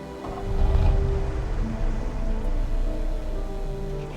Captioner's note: car starting